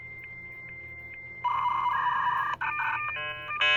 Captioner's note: beeping